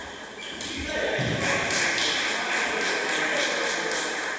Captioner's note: applause